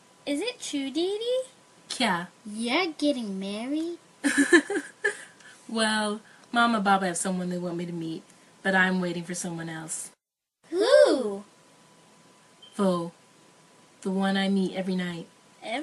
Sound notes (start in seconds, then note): 4.2 rukhsaar laughs